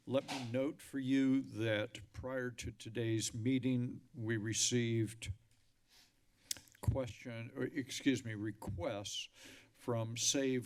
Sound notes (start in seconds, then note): 6.5 clicks tongue